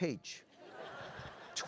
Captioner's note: laughter